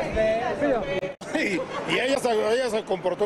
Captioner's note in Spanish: risas